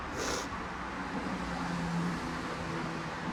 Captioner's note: sniffles